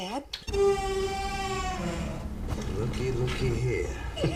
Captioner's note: door squeaks open